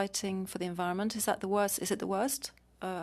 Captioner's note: speaking French